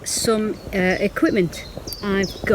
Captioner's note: birds chirping